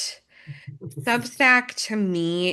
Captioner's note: chuckles